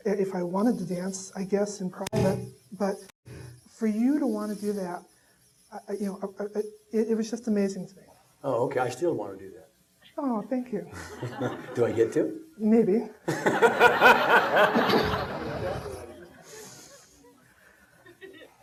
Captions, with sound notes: if I wanted to dance, I guess, in private? But for you to want to do that, it was just amazing to me. - Oh, okay, I still want to do that. - Aw, thank you. (audience laughing) - Do I get to? - Maybe. (laughing)